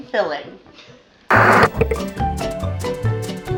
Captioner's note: TV Static